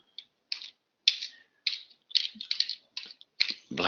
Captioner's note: typing